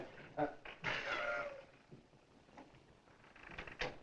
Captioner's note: laughs